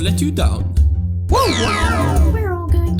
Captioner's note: mario whimpers